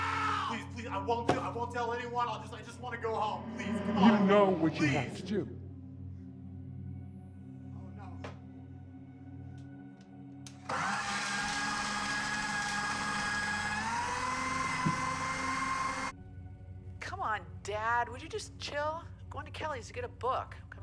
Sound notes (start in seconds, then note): 6.1 ominous music; 10.4 shredder whirring